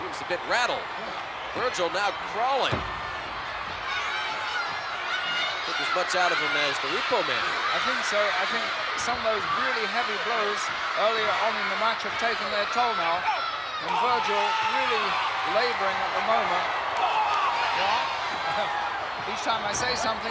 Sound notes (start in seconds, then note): 12.8 blows thudding; 13.1 wrestlers grunting; 16.9 blows thudding